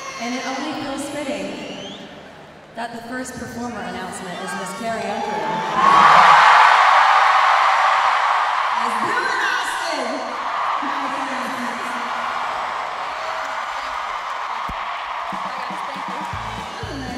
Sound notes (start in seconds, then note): 5.8 crowd cheering